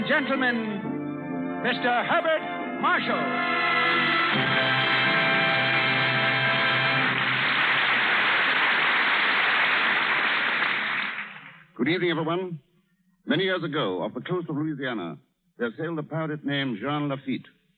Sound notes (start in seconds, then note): 4.2 applause